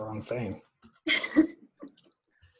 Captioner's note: laughter